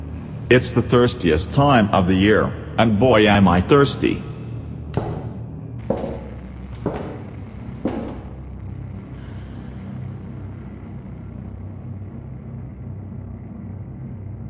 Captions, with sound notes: It's the thirstiest time of the year, and boy am I thirsty. *footsteps*